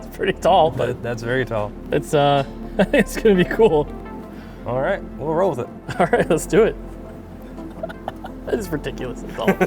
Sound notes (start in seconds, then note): 7.4 chuckles